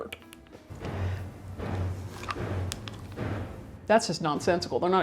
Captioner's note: metal banging